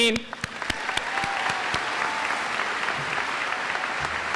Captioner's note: audience applauds